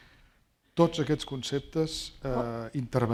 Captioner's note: speaking spanish